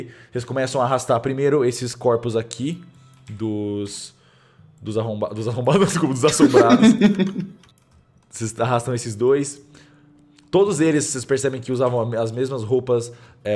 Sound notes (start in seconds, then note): 5.9 laughter